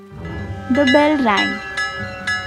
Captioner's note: school bell ringing